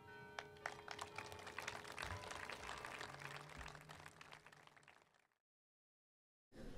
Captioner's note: applause